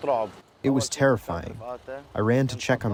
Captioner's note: through translator